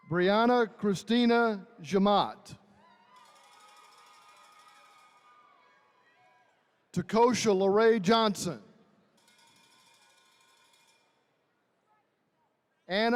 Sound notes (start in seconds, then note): 2.8 attendees cheering; 9.2 attendees cheering